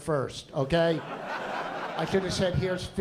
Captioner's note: laughter